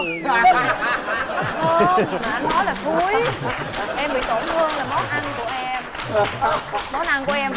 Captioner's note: laughing